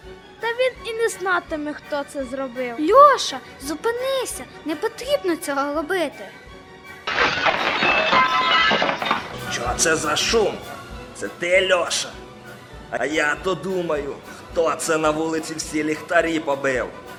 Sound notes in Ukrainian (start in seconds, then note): 7.0 Звук побитого стікла